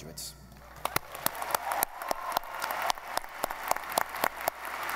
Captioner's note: audience applauding